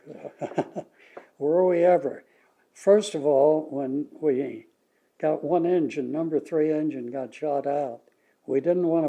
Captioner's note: laughs